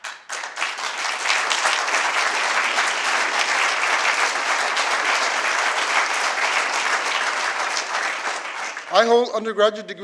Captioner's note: applause